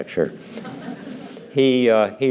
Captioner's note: laughter